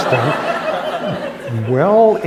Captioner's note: laughter